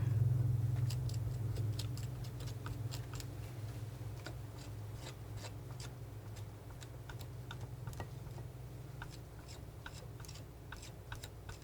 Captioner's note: scratching